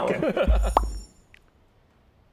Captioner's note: pop!